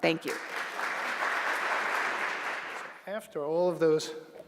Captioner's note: applause